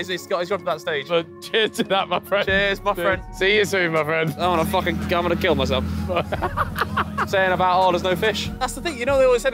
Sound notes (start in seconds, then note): 6.0 Ethan laughing